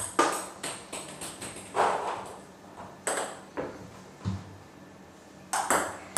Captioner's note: balls ping pong hitting continues